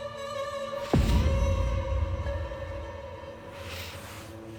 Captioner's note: fabric rustles